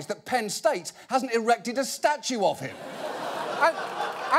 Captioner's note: audience laughing